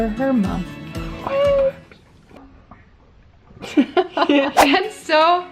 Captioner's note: both laugh